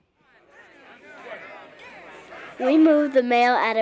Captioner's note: crowd chattering